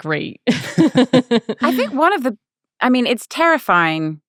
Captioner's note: laughing